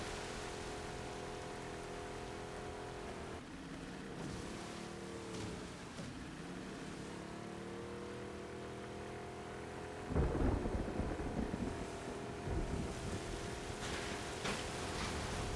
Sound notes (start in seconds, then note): none